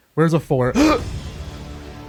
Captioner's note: gasp